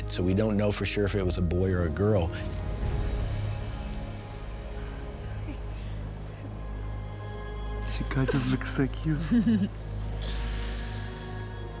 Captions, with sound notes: SO WE DON'T KNOW FOR SURE IF IT WAS A BOY OR A GIRL. SHE KIND OF LOOKS LIKE YOU. [LAUGHS]